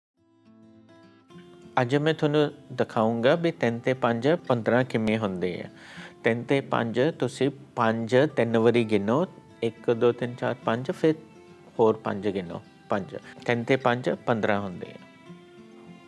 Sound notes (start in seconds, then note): 1.6 man speaking foreign language